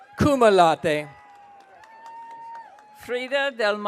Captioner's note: audience cheering